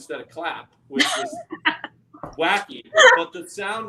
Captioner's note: laughing